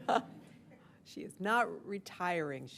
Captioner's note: laughter